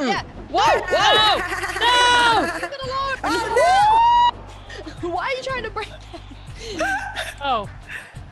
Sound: laugh

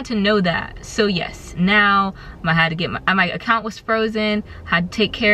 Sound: stuttering

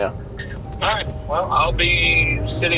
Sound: man On Radio

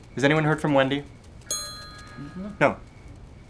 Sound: tink Bells

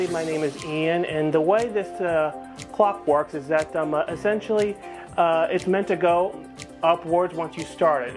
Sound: timer

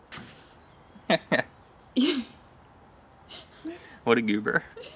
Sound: laughing

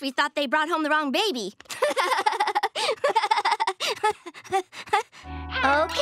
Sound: laughing

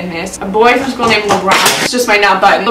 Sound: something drops on the floor

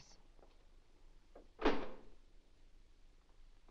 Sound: door unlocks

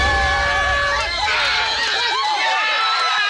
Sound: contestants yelling; horn blows; crowd cheering

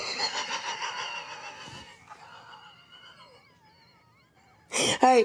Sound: laughs

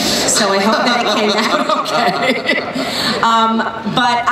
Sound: laughs

